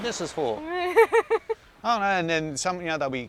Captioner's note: laughing